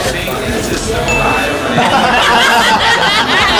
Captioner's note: & staff laugh